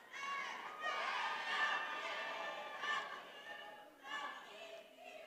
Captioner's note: attendees cheering